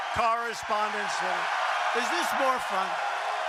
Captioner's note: cheering and applause